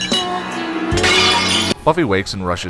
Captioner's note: smash